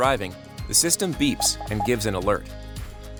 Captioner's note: electronic beeps